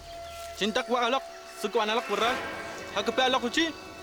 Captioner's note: speaking Arawak